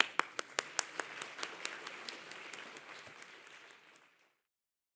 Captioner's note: facilitator applauding; audience applauding